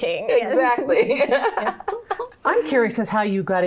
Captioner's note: laughing